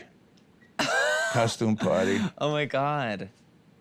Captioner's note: laughs